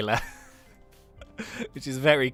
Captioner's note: laughs